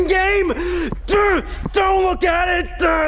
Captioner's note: grunting